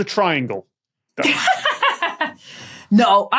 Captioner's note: belly laughs